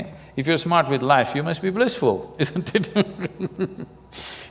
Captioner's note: laughs